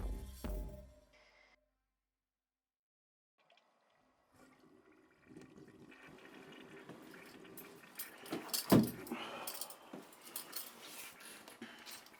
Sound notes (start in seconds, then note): 3.4 water flushing